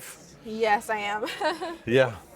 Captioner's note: chuckles